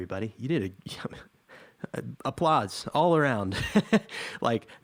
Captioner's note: chuckles